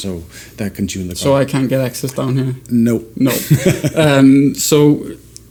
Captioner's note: laughter